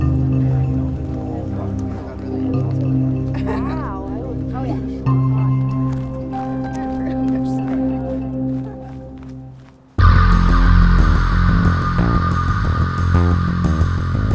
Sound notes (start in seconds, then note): 1.2 all chattering; 10.2 tense music